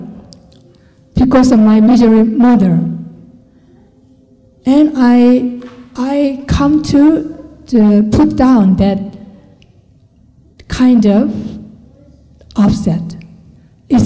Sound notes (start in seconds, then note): none